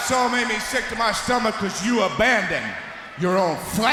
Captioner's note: crowd cheering